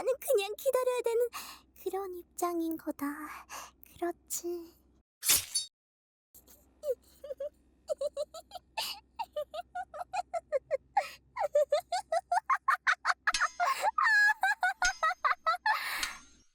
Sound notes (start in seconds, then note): 5.2 sharp sound of a blade